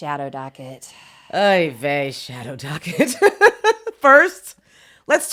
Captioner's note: laughs